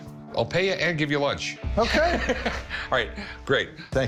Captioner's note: Rick laughs